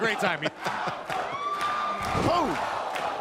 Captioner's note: laughter